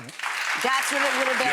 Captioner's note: audience clapping